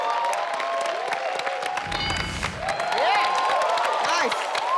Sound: crowd cheering

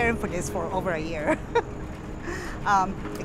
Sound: laugh

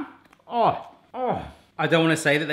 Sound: groaning

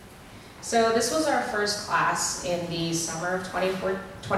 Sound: voiceover

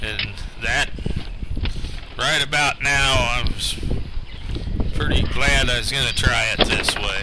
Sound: breathing hard; door opens

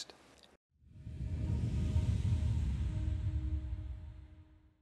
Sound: wooshing

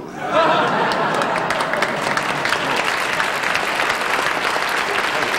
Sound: audience applauding

